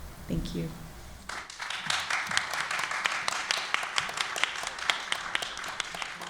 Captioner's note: applause